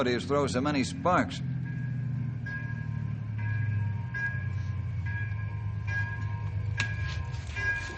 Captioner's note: beeping